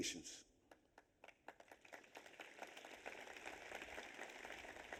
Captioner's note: audience applauds